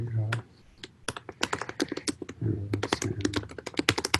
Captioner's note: keyboard taps